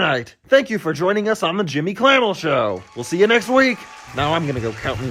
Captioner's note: audience cheering